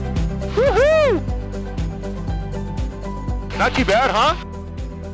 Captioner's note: pilot cheers